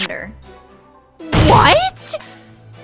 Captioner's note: slam